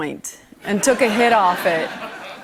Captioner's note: laughter